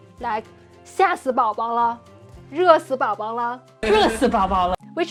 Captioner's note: speaking Chinese